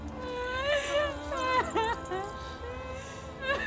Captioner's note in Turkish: Ağlama sesi